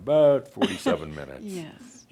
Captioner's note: chuckles